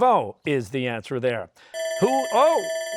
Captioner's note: bell ringing